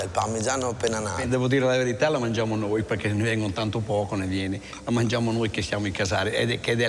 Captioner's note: man speaks in foreign language